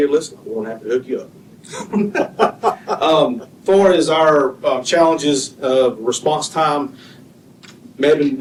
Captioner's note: laughter